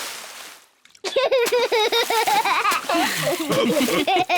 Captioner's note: laughs; all laugh